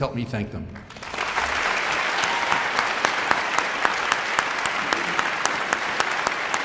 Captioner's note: audience cheering and applauding